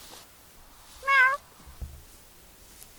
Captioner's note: meow